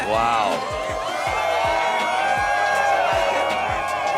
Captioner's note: cheering